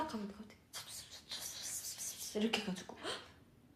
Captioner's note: whispering